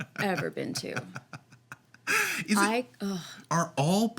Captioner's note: Victor chuckling